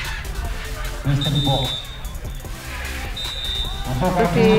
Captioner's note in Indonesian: Peluit